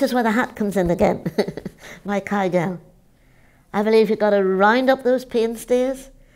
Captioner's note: laughs